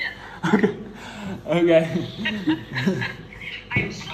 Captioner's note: both laughing